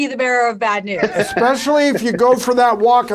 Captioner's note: laughs